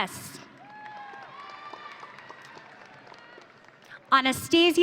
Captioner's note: audience cheering